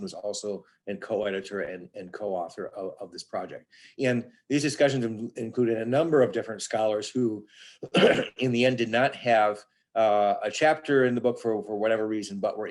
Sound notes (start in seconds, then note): 7.8 coughs